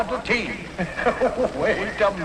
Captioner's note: Hillman laughs